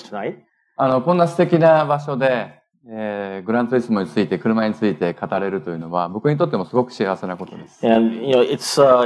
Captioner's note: speaking japanese